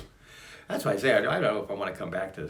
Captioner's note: sigh